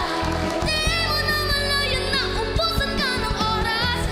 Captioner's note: applause